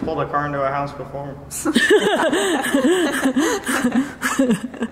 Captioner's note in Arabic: يضحك